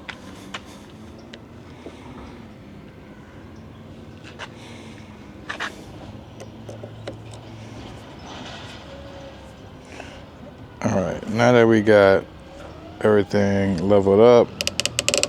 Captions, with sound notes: (birds chirping) All right, now that we got everything leveled up.